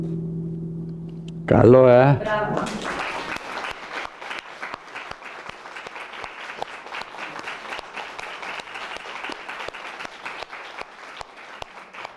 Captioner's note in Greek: χειροκρότημα